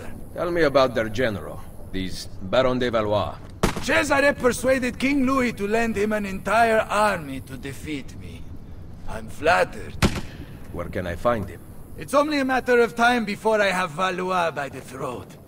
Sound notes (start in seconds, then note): 3.6 gunshot; 10.0 gunshot